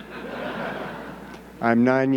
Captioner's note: audience laughing